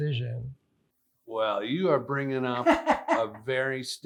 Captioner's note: laughs